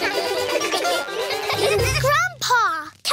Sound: all giggle

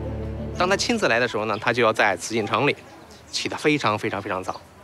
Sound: speaking Chinese

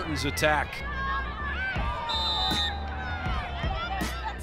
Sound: whistle blows

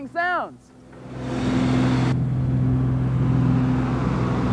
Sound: machines humming

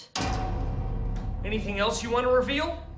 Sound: clang

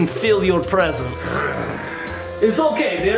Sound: mummy growling

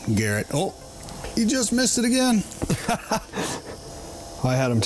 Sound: laughs

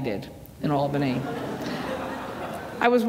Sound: laughter

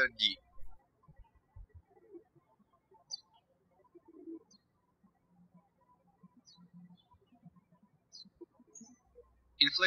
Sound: birds chirping

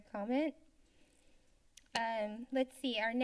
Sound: silence

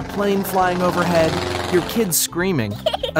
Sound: plane engine; child laughing

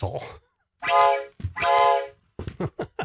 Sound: toot toot; laughing

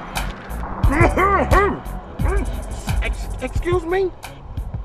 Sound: clearing throat

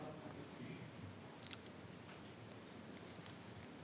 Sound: speaking faintly

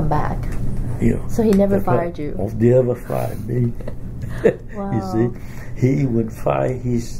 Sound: laughs

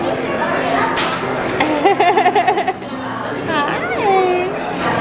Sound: laughs

